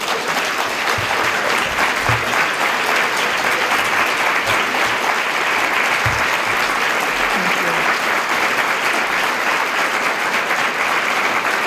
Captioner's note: applause